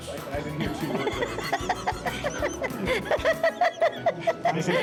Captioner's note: laughs